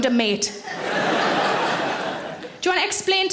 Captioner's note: audience laughs